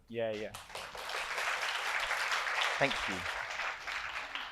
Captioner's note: audience applauds